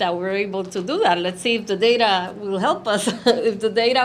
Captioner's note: chuckles